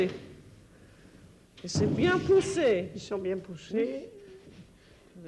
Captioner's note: conversing in French